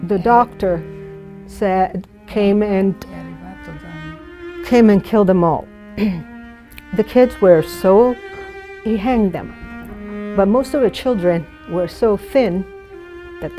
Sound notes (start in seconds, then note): 3.3 speaking in foreign language